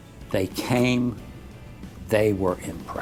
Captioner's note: voiceover